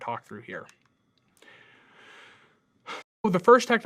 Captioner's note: computer mouse clicking